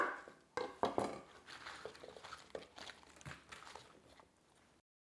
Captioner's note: knife thumps; bok choy rustling